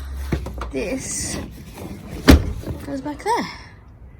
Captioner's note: seat clunks into place loudly